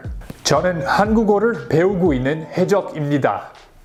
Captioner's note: speaks Korean